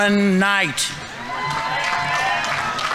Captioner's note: audience members cheering; audience applauding